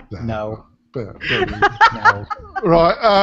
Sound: laughter

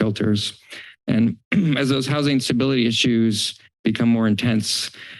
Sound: clears throat

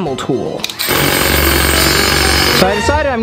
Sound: drilling sound

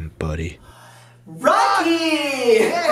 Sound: gasping

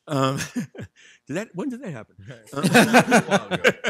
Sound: laughs; laughs

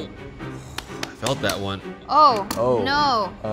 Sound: knife thudding

